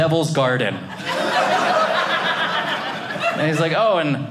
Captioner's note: audience laughing